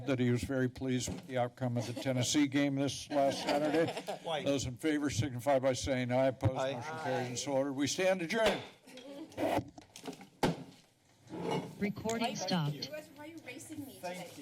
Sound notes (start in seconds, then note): 8.7 gavel tap